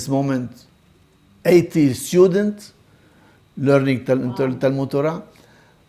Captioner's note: Hebrew